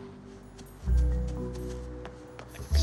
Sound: more running

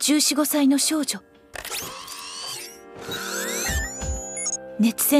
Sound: the whirring of machinery

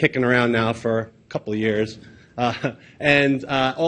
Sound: laughs

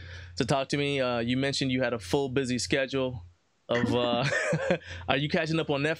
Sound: laughs

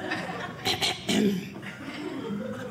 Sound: audience laughing

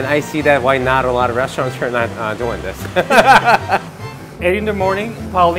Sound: laughs

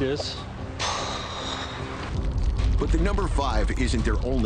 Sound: loudly sighing

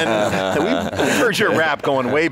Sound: Pat laughs

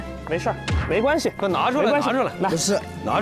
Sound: stamp heavily

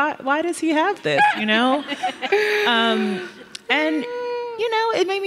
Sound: laughing

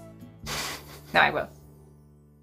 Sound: chuckles

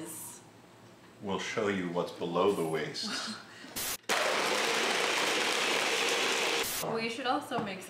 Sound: loud blender running

